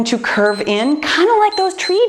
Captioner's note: timer beeps